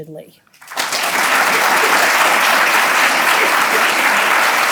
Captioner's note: audience applauding